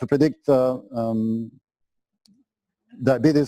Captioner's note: pause